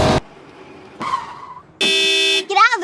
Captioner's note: engine revving; tires screeching; car honking